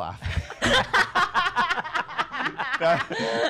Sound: laughter

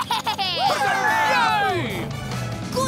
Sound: cheering

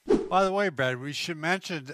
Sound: image whooshes

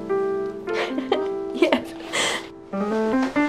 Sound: laughs

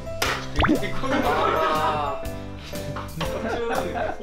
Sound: laughing before the hot water scene

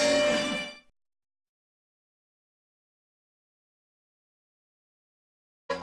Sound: silence

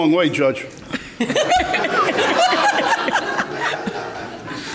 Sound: all laughing

